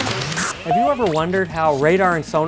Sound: static; beeping

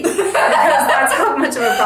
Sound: laughing

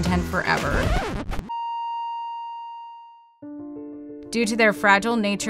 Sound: record scratches; beeps

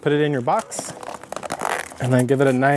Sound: box squeaking

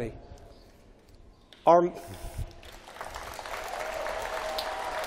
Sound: applause

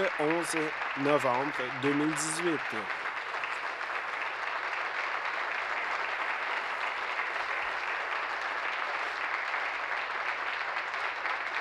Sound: applause

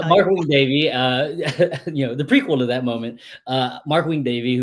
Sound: laughs

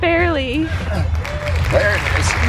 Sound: applause

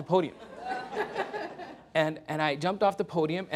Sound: laughter

